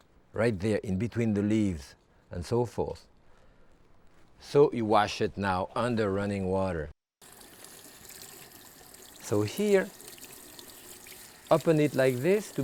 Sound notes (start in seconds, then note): 7.2 water trickling